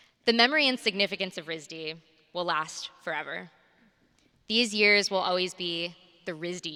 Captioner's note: none